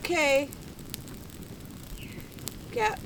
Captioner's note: bird chirp